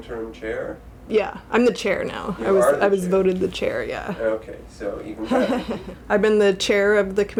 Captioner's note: laughing